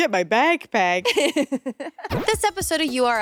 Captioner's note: Vic laughing